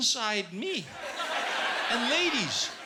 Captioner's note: laughter